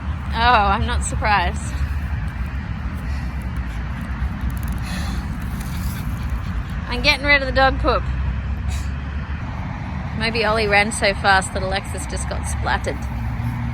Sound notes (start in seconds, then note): 0.0 continues puffing dramatically; 5.3 plastic bag rustles; 8.6 short laugh